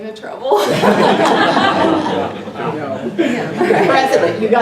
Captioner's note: laugh